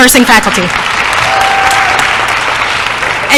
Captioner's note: applause